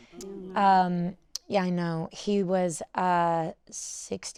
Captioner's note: audience gasping